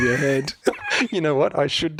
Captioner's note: laughs